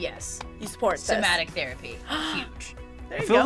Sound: React gasps

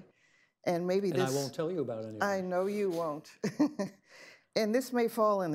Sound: laughs

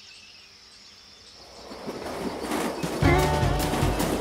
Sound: birds chirping; train on tracks

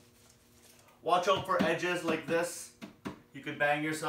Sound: none

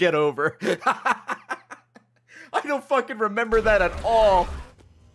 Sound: laughs

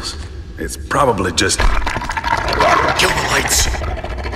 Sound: grumbling and snarling close

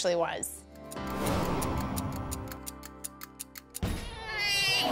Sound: timer ticking

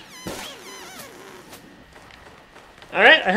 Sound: balloons popping

